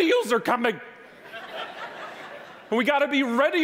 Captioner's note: audience laughing